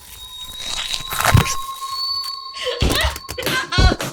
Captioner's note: flesh squishing; crying